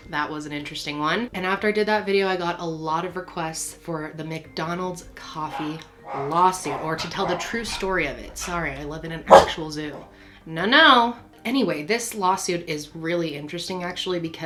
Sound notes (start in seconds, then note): 10.0 dog barking